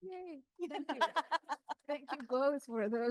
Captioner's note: laughs